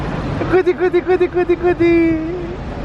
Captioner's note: playful Noises !